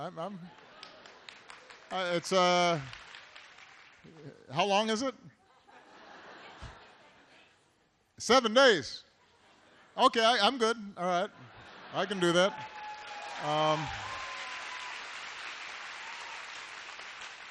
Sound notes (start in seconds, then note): 0.4 laughter; 0.5 applause; 7.9 laughter; 12.2 applause